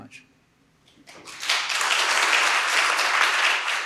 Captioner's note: applause